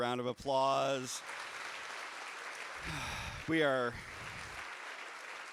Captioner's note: audience applauding